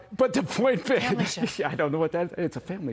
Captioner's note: laughter